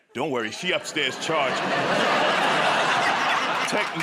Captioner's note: laughter